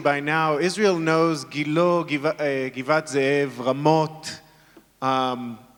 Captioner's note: speaking in foreign language